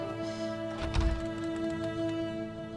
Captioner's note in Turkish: Kapı açıldı